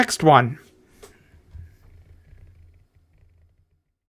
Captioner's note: silence